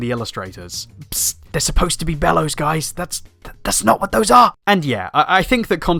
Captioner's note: psst